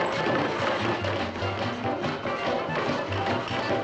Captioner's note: sawing, pounding